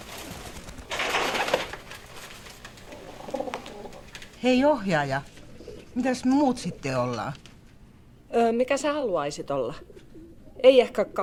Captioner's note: cage rattling